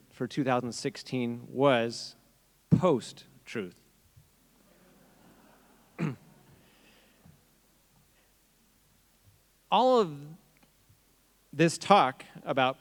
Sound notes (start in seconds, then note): 4.6 audience chuckling